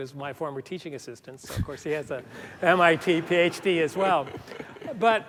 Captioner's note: laughter